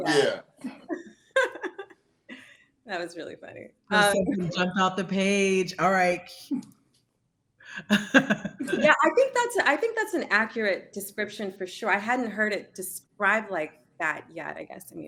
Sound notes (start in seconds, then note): 1.3 laughing; 7.7 chuckles